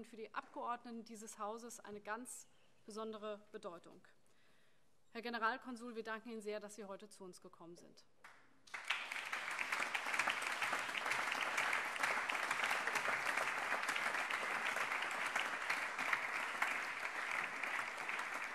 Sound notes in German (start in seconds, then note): 12.2 Beifall